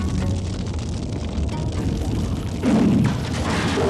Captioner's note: fire raging; gentle music